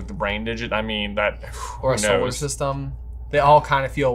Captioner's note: blows out